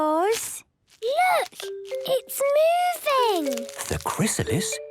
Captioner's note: whispering